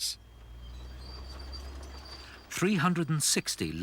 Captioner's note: machinery creaking